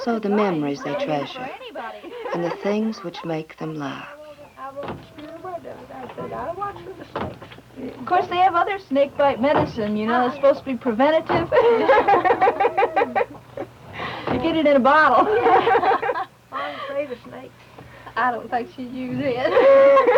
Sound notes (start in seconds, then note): 11.4 laughter; 15.2 laughter